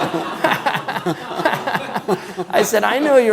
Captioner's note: laughing